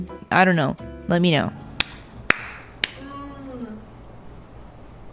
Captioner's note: applauding the cheesecake